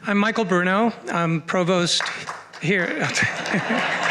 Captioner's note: clapping; laughter